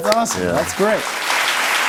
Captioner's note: cheers and applause